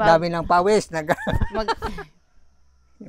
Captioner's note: laughs